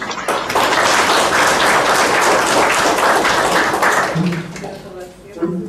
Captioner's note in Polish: oklaski